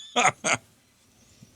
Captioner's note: laughing